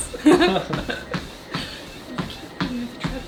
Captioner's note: both chuckling